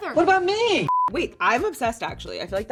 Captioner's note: beeping